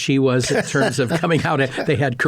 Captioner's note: laughing